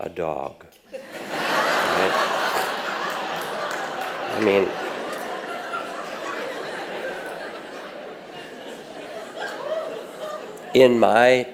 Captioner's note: audience laughs